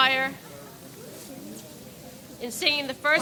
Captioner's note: people chatter indistinctly